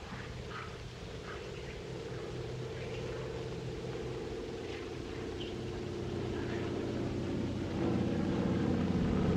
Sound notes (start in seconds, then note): 2.2 airplane In Distance